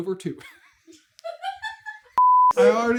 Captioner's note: laughter